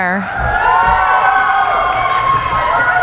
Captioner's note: cheering